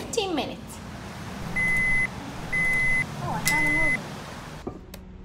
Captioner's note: beeping